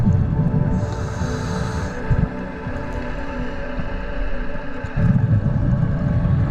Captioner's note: underwater sounds continue